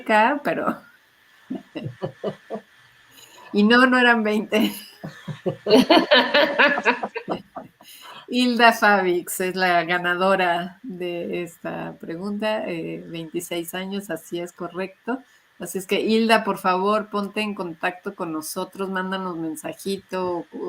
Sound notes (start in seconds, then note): 4.6 laughs